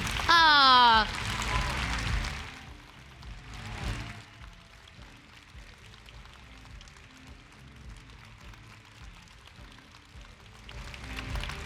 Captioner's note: applause